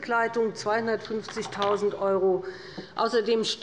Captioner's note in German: none